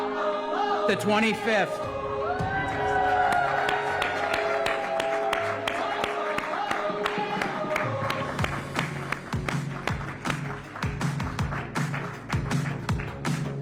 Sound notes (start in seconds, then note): 3.1 applause